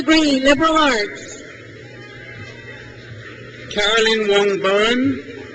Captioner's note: crowd cheers